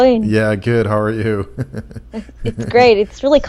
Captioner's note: laughs